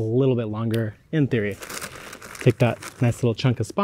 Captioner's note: bag crinkling